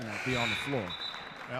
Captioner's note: buzzer sounding